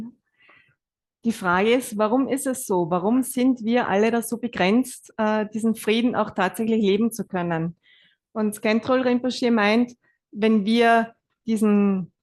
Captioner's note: German live translation